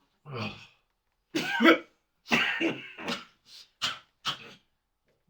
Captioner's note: Beau coughing